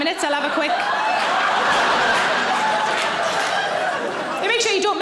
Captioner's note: audience laughing